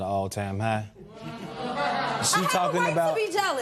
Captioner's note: spectators murmur